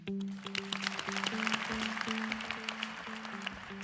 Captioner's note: applause